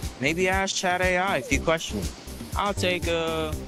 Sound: none

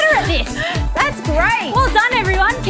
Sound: panting

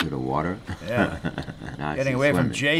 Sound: chuckling

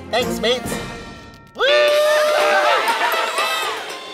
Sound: cheering

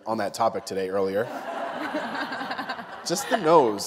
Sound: laughter

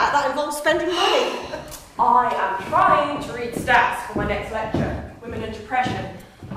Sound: sighs

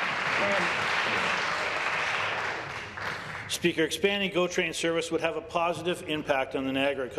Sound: applause

